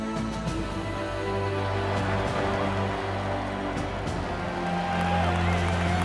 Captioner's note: crowd cheering